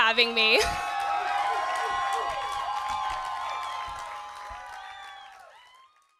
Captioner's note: audience cheers and applauds